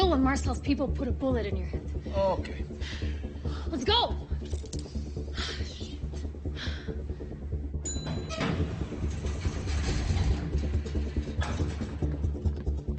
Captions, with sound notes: - You will when Marcel's people put a bullet in your head. Okay. Let's go. [tense music] Shit. [elevator dings] [tense music continues]